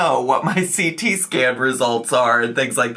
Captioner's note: chuckling